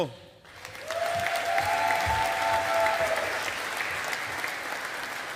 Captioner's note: audience applauding